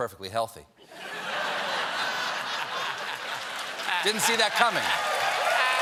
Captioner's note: laughter